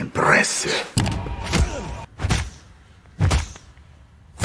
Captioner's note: punching repeatedly